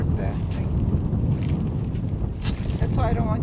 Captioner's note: wind whooshing